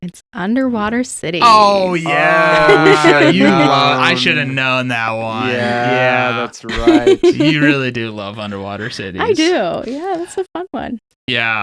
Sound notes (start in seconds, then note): 1.5 laughing